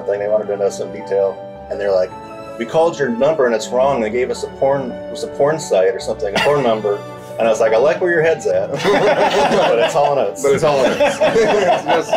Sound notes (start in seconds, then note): 8.7 everybody laughs; 11.9 background chattering; 11.9 everybody laughs